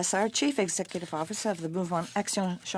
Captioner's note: speaking French